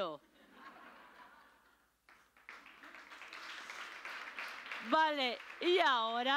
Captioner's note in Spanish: Risas y aplausos